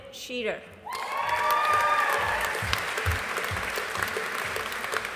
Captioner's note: audience applauding